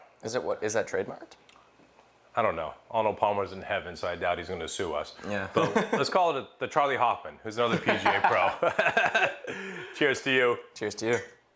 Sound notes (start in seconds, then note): 7.7 both laughing